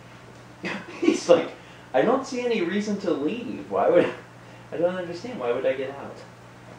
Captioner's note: laughs